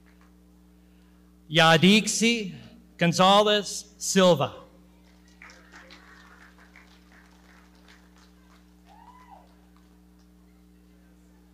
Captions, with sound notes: Yadisi Gonzalez-Silva. (audience clapping) - Congratulations.